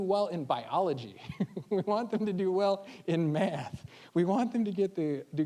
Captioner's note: chuckling